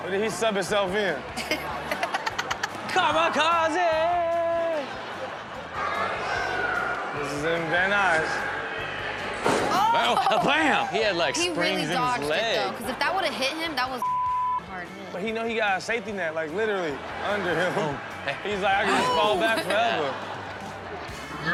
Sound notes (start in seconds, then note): 1.4 Chanel and audience laughing; 4.8 audience laughing; 14.0 beep